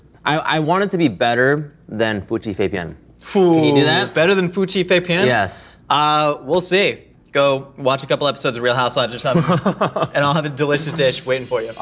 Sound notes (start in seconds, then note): 9.2 laughs